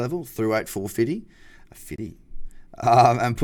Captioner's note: laughing